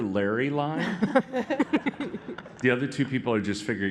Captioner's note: laughter